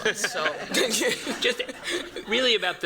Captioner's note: laughter